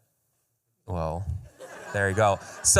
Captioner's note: laughter